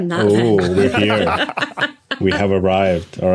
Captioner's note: laugh